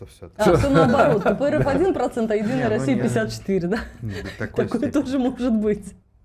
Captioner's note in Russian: смех